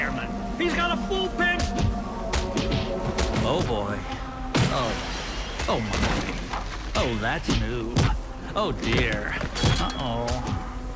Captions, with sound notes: He's got a full pen-- [blows landing] Oh, boy. Oh. [objects crashing] Oh, my. Oh, that's new. Oh, dear, uh-oh.